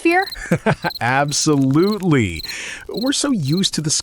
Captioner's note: laughing